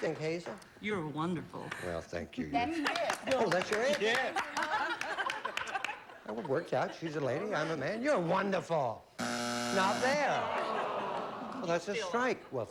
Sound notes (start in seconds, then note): 9.2 buzzer